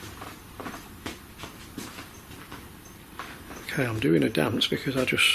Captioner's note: creaking